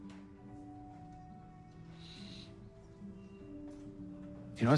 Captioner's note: sniffing